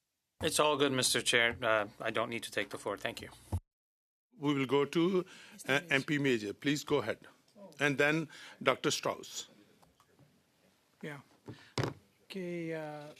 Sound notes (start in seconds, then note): 4.3 speaking French